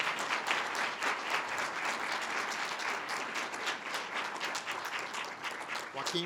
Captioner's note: audience applause